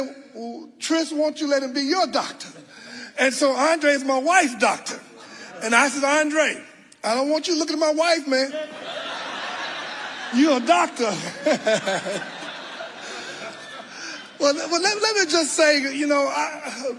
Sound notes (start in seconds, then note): 8.4 audience laughing; 11.8 laughing; 12.7 audience laughing